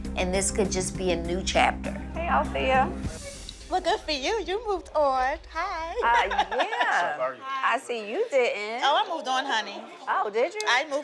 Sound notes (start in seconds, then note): 6.0 laughs